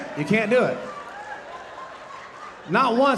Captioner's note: audience laughing